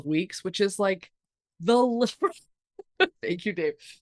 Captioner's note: chuckles